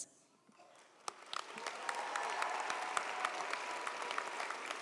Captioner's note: audience applauds